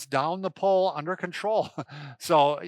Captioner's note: laughs